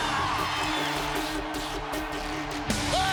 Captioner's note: crowd cheering